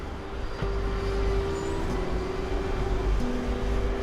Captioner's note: car engines rumbling